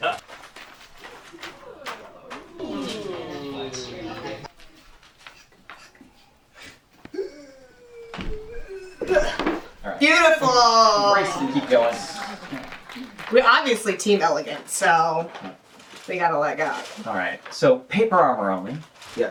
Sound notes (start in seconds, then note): 1.2 audience oohs; 11.2 applause